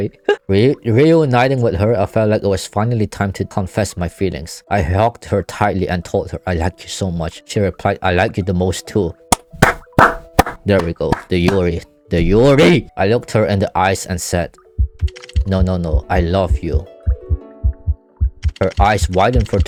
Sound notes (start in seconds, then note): 9.3 clapping hands